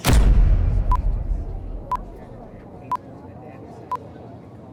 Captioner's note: dramatic music; clock beeping